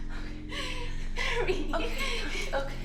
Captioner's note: crying